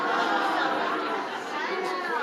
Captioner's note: audience chattering